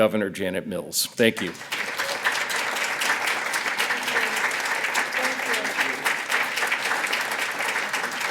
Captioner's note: applause